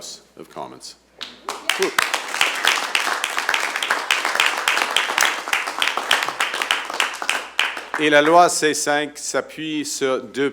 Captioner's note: applause